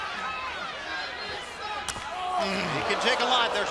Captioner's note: crowd chatter